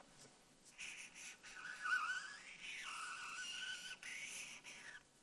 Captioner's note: marker squeaks